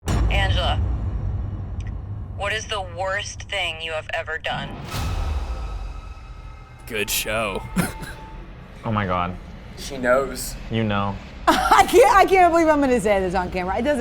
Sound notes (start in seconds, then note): 4.7 tense music; 7.1 laughs